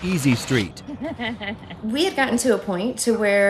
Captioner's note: mother chuckling